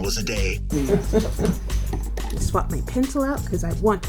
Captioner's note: chuckling